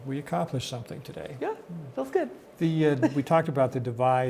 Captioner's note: laughs